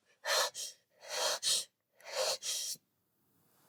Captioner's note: pants sharply